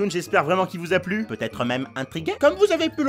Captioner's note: Pumpkin voice